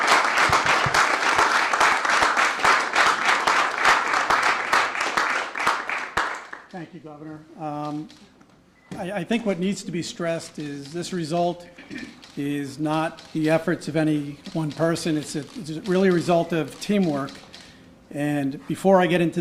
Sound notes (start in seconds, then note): 4.1 applause